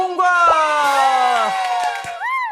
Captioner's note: excited